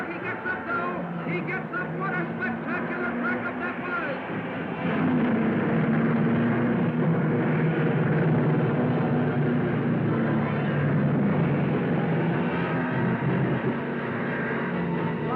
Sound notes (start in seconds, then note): 4.9 cars revving; 4.9 dramatic music